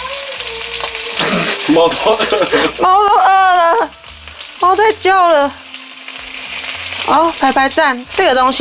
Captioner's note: meowing